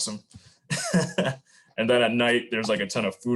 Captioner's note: laughs